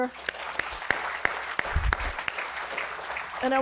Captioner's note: audience applauding